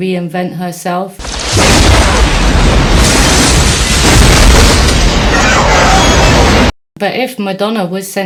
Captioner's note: explosion noises